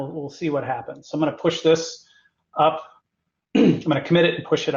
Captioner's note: cough